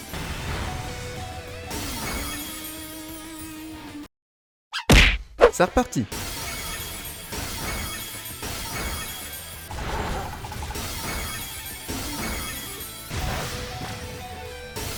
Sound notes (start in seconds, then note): 4.8 Pawmi's cry cut by a punch